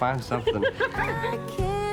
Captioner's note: laughing